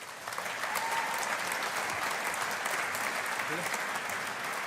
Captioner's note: audience applauding